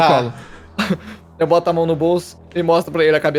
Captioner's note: chuckle